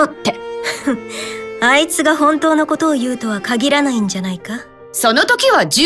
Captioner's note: giggle